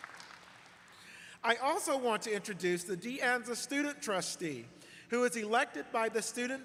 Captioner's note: applause